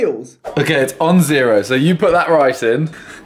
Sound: men laughing

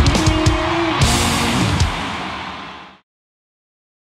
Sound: crowd cheers

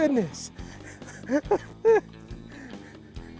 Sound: laughing

